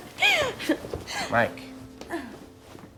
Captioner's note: giggles